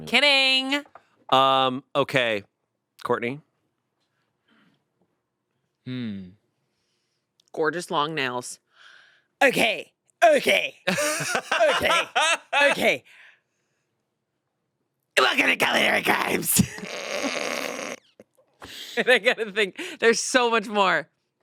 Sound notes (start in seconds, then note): 13.4 laughs; 17.1 stifles laughter